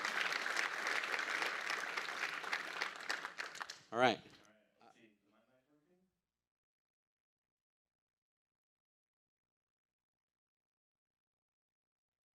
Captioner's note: applause